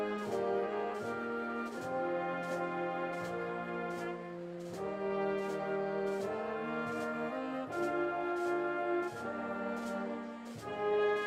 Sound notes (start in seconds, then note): none